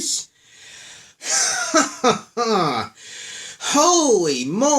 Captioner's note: sarcastic laughing